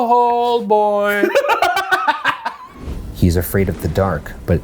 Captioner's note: laughs